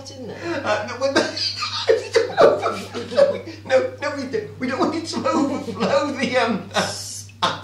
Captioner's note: gibbering a lot